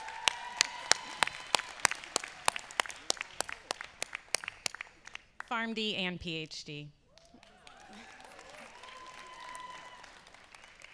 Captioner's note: applause